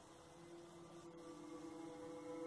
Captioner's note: pleasurable whale moan